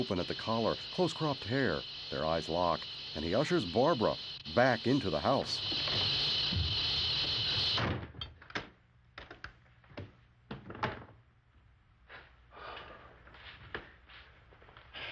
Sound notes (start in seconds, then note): 7.9 lock clicks; 12.5 exhales deeply